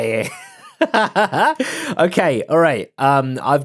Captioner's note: laughs